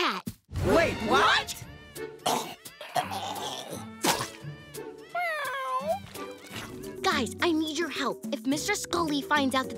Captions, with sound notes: Wait, what? [retching] [meowing] Guys, I need your help. If Mr. Scully finds out that the Changs